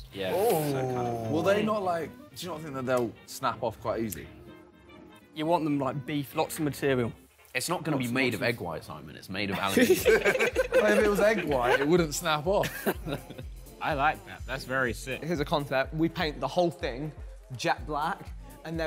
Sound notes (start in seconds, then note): 9.5 all laughing